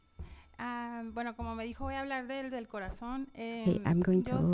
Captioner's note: panelist speaking in Spanish